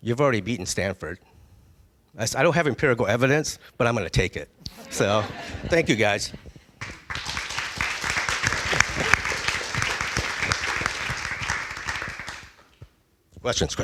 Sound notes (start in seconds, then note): 4.7 laughing; 10.6 applause